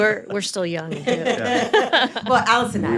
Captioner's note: group laughing